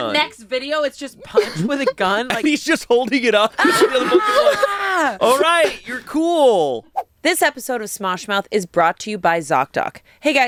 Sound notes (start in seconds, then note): 3.6 screams